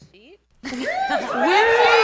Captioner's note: cheering